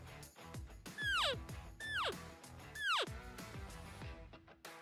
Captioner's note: elk call